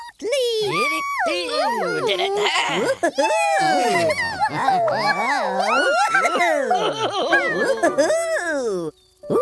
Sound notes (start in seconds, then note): 3.3 cheers